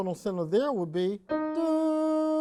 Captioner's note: humming